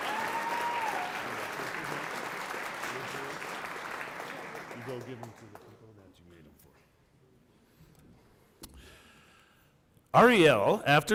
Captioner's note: cheering and applause